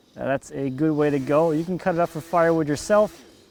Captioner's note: chainsaw growls